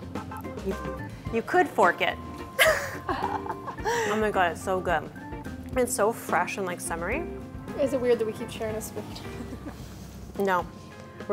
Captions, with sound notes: - You could fork it. (laughs) Oh my god, it's so good. It's so fresh and summery. - Is it weird that we keep sharing the spoon? - No.